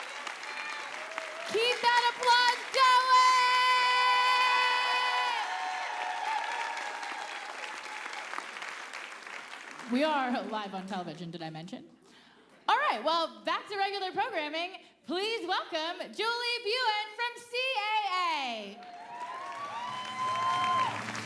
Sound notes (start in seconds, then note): 5.6 applause